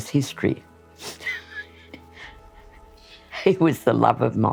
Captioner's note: laughs